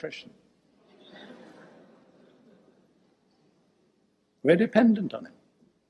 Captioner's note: audience laughing